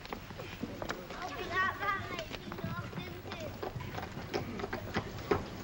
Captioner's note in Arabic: صوت اصوات الاطفال; ضربات الحوافر